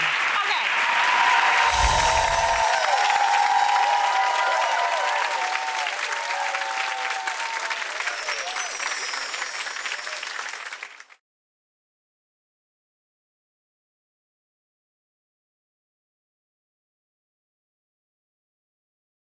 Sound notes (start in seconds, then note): 1.3 applause; 1.5 chiming; 3.8 applause; 7.8 chiming